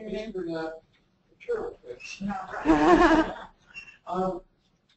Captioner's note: laugh